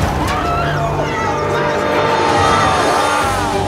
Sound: uplifting atmosphere music; cheering

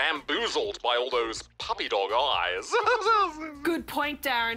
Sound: chuckles

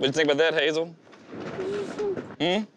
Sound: scoffing

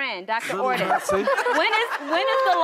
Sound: laughter

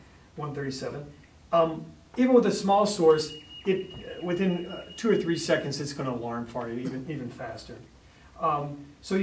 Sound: alarm beeps

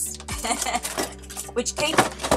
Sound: laughing

